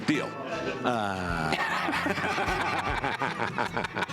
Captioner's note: laughter